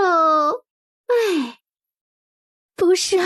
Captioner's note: sigh